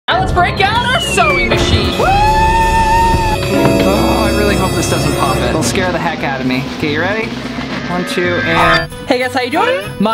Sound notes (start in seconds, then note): 2.3 squeals